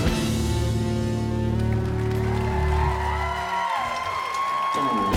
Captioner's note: applause